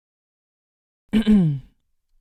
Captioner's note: cough